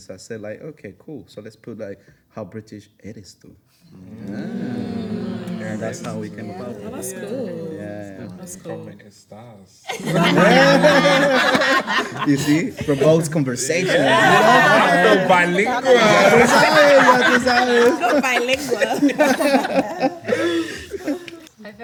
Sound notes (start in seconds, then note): 9.3 speaking in Spanish; 16.3 speaking in Spanish; 19.8 everyone laughs